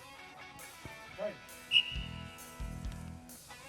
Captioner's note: whistle blows